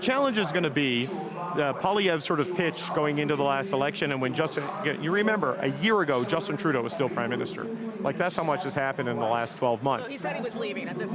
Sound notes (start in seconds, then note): none